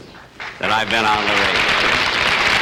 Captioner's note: audience Applauding